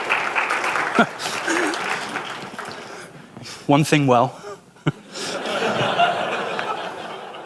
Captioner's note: laughter